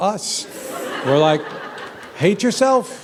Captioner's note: laughter